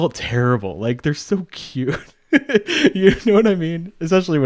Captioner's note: laughs